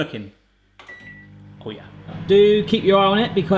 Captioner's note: microwave beeps